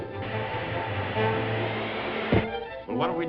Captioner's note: body falls to floor